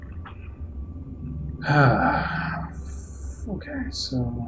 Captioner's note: sighing